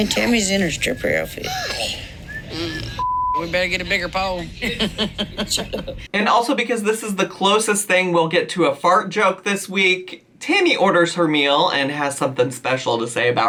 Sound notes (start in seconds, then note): 3.0 beep; 4.5 laughs